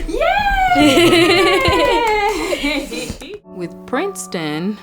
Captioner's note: laughs